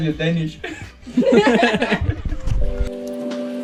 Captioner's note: everyone laughing